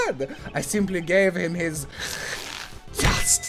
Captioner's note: deep inhale